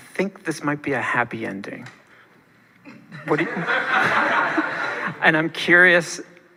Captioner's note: audience laughing